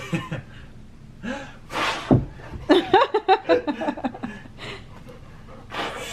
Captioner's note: blows more wind; chuckles; blows in ear